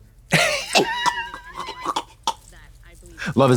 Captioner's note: Trixie ingurgitates